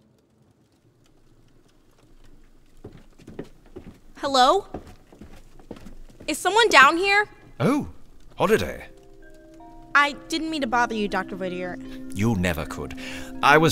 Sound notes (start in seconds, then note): 0.0 door opens and closes; 2.1 footsteps